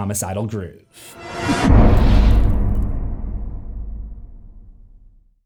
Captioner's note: impact